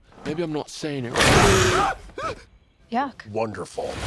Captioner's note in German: Bestie brüllt; Zenk schreit auf